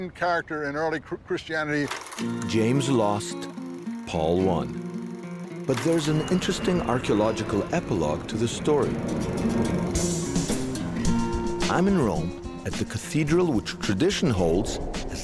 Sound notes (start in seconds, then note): 3.5 gentle music; 6.4 engine revving; 8.9 upbeat music